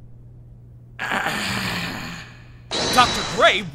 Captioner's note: Grey groans in pain